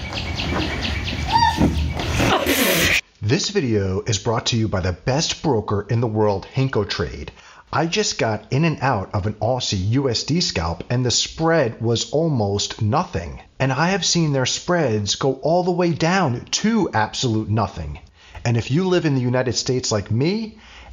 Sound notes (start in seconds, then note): 0.0 birds chirping; 1.2 woman squeals